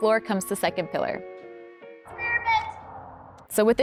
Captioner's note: yells from afar